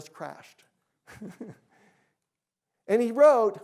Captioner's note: chuckles